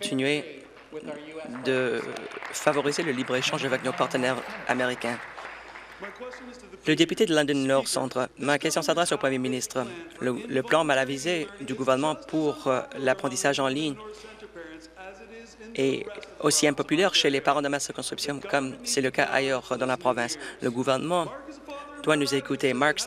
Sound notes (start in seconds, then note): 5.3 applause